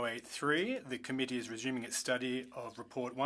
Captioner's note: speaking French